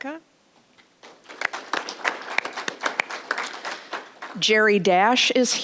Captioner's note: applause